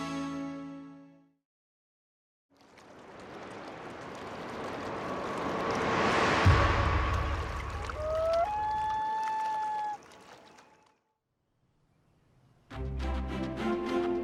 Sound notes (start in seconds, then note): 2.6 water lapping; 3.4 whooshing; 8.0 loon calls; 12.8 upbeat music